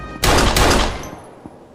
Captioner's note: gunshot